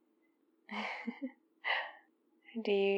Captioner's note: laughs